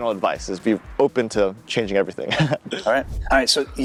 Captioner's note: chuckling